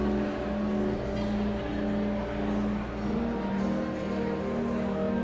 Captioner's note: whimsical organ music continues; audience chattering continues